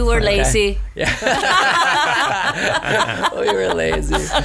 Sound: laughs

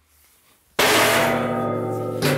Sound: loud clanging

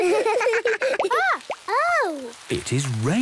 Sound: water dripping

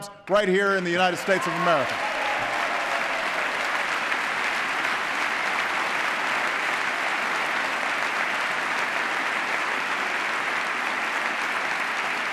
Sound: applause

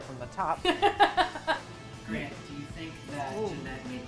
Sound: laughs

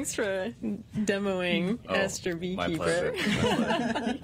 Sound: laughter

